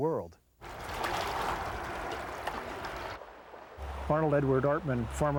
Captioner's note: water flowing